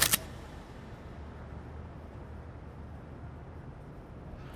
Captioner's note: camera snapping